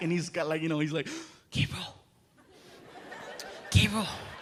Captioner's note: whispering